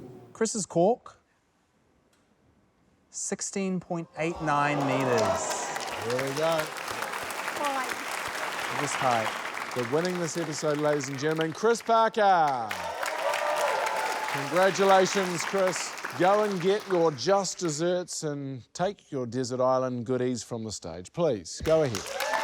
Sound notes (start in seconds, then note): 7.1 applause; 12.4 cheers, applause; 21.6 cheers, applause